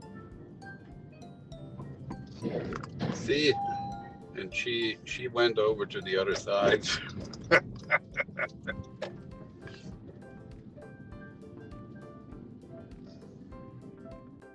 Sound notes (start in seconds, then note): 6.6 laugh